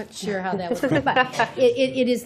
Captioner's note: laughter